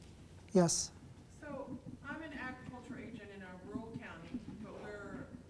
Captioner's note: voiceover